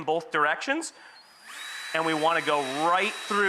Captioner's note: drill whirs